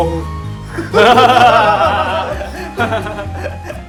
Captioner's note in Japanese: 笑い